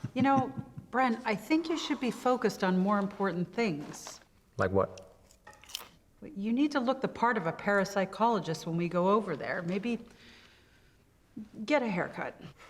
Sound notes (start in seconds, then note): 5.2 chip crunching